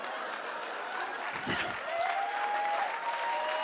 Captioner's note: audience claps and cheers; audience laughs and starts to clap